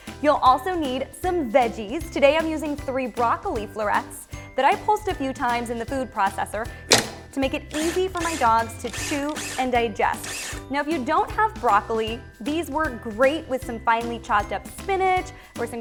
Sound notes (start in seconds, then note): 6.9 metal click; 7.7 blender whirring